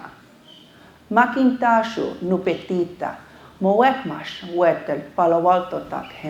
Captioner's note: speaking foreign language